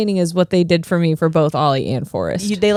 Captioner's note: laughing